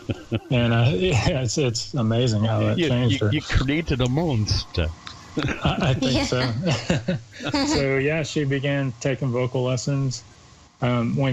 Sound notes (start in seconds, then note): 0.0 chuckles; 5.3 laughs